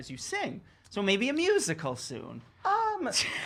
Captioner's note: laughs